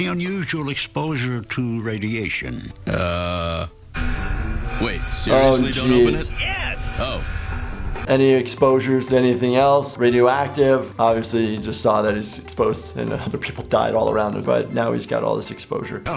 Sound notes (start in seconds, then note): 3.6 dramatic music; 6.8 man through earpiece